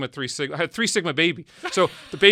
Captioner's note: laughs